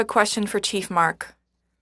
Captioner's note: speaking French